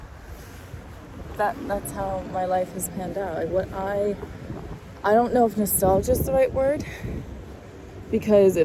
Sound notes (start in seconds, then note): 6.9 exhales